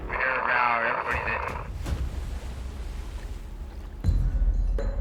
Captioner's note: radio static hisses